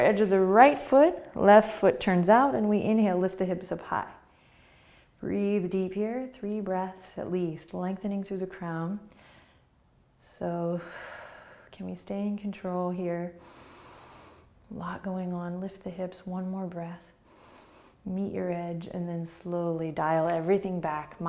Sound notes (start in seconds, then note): 13.4 breathing; 17.2 inhaling